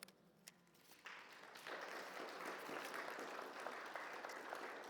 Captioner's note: audience applauds